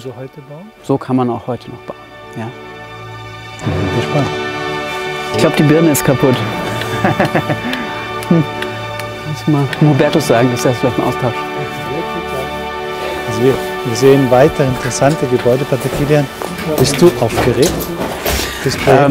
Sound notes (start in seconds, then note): 6.8 laughs